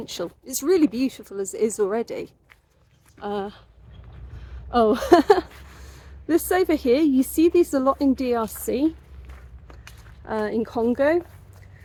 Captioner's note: laughing